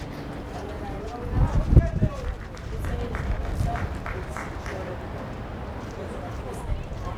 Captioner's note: players yelling in foreign language